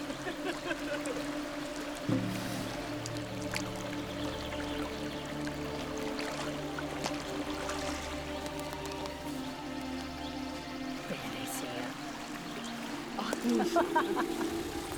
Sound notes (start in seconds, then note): 0.1 giggling; 11.1 speaking Algonquian; 13.2 giggling